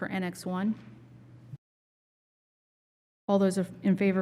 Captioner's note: silence